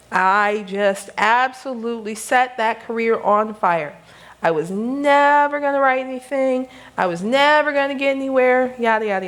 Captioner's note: none